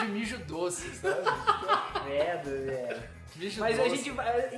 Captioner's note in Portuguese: risos